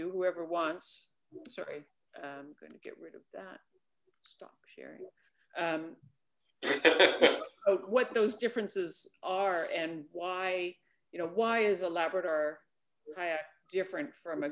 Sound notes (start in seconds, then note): 6.6 laughs